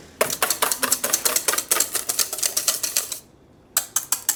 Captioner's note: whisk clangs on bowl